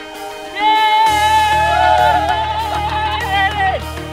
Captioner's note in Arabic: صراخ